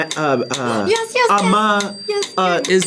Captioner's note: gasps